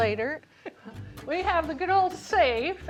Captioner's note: chuckling